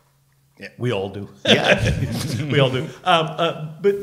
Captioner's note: laughs